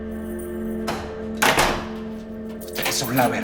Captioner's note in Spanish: Sonido al cerrar la puerta